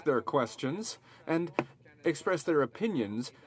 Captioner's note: speaking french